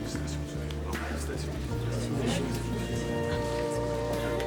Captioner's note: all murmuring